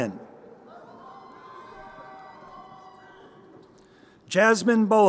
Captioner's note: crowd cheering